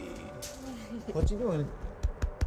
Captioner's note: laughs